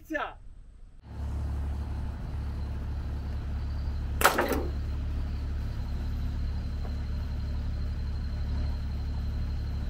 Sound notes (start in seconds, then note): 4.2 nail gun firing; 6.1 engine humming